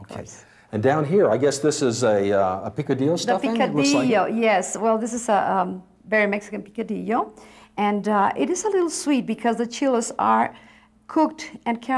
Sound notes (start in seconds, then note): none